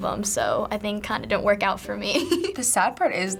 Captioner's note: giggles